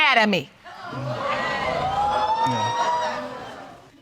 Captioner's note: audience laughing